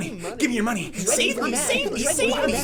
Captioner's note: voices repeating